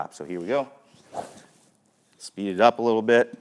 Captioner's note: air whooshing